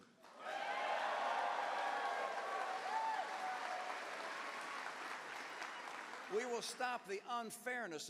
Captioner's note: cheers